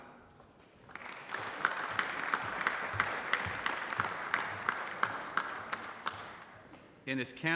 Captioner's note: applause